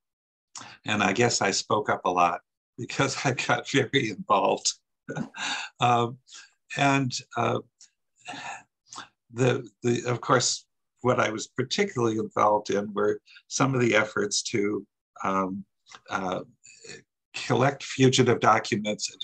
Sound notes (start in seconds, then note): 5.1 laughs